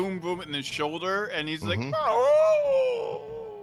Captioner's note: yells